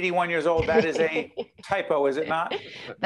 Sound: laughing

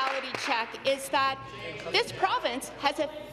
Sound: applause

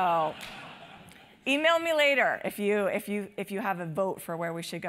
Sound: laugh

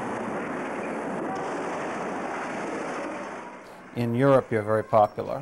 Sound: metal crashing

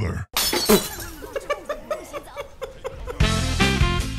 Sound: Glass shattering, Dunkey laughing

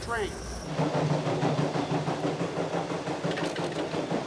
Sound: train chugging

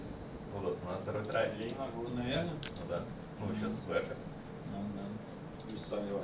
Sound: people speaking in foreign language

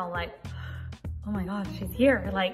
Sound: gasps

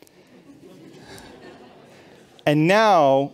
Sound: laughter

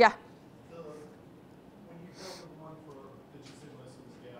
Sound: voiceover

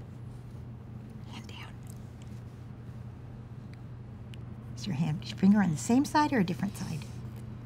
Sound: whispering

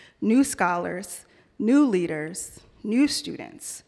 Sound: none

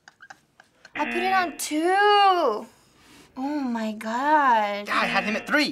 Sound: chuckles softly; buzzer

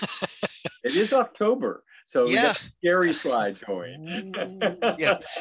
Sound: laughs; laughs

